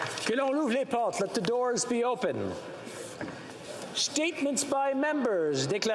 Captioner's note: applause